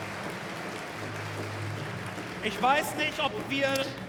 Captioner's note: applause